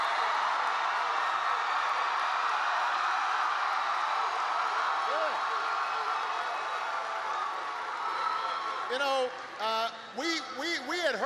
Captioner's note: applause